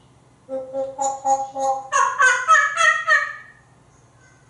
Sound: monkey sounds

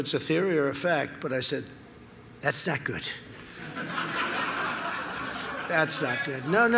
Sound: laughter

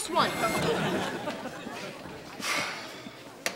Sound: sighs

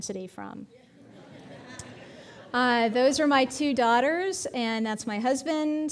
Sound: audience laughing

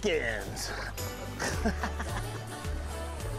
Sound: laughs

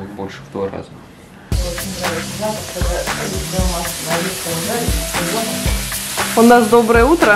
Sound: discussing something in Russian

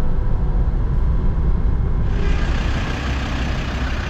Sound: engine rumbling

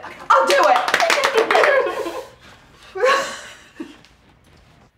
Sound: girls clapping

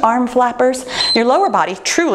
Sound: timer beeps

